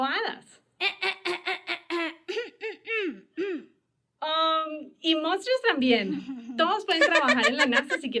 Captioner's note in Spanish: Carraspeo